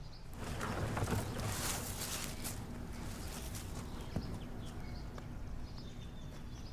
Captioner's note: birds chirping; can rumbling